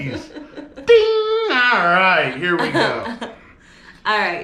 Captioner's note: laughing